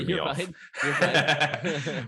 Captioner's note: laughing; laughter continues